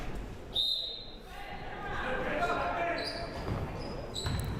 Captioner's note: whistle blaring; crowd murmuring